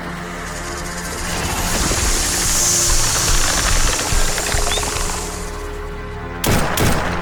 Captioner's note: snake rattles; snake hisses; gunfire popping